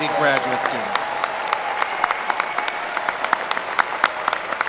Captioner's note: applause